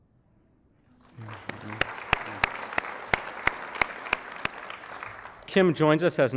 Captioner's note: applause